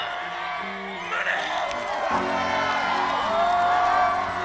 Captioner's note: cheers